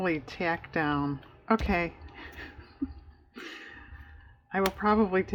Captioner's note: laughs